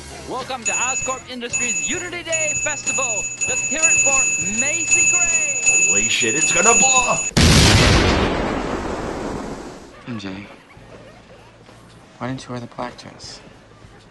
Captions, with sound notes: [Bing sound goes haywire] Holy shit it's gonna blow! [Explosion] "MJ, why didn't you wear the black dress?"